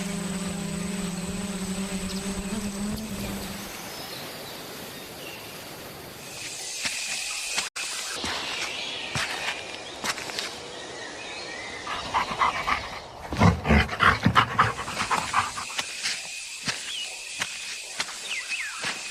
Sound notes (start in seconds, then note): 0.1 insects buzzing; 11.8 animal panting; 15.8 insects stridulating